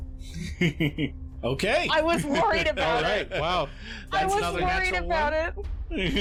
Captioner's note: laughter